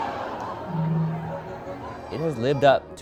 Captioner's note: crowd gasps; humming